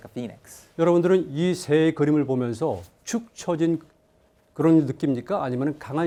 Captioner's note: speaking in Korean